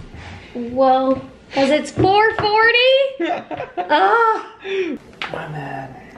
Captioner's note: laughing